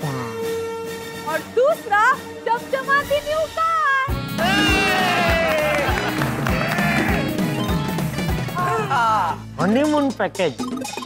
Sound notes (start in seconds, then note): 4.4 cheering and applauding; 8.4 sighs